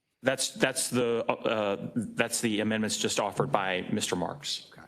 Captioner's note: none